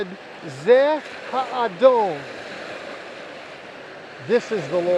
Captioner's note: speaking Hebrew